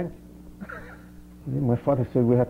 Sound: laughs

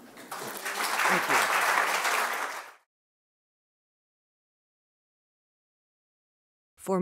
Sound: applause

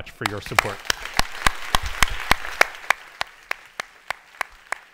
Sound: audience applauds

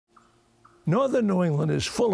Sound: birds, bugs chirping

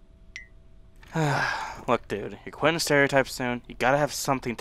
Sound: sighs

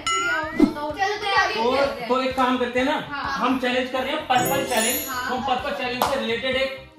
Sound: applause

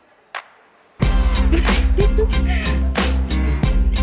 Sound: laughs

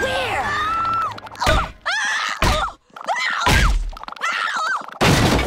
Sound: screaming

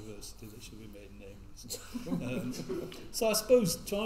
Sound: all laugh

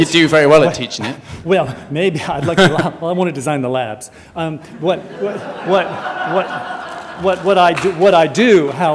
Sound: audience laughter

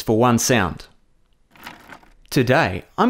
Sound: chair rolling sound

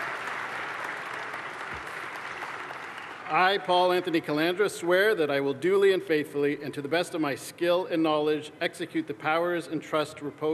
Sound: cheers and applause

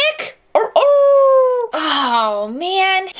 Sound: howls

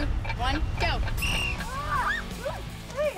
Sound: whistle blowing

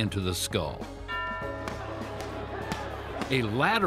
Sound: boxing crowd

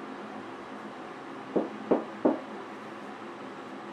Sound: quiet knocking

